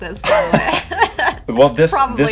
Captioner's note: laughing